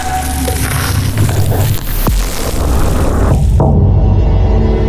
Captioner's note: bread crunching; eerie ethereal music